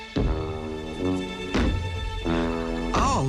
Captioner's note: heavy footsteps